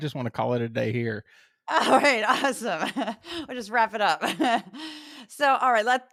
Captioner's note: laugh